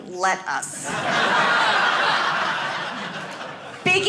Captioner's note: audience laughing